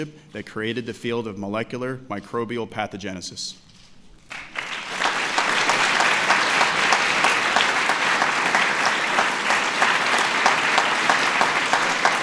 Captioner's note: applause